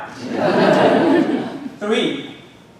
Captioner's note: audience laughing